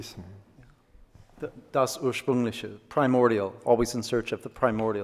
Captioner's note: speaks German